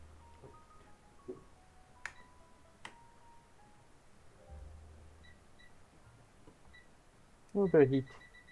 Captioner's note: beeping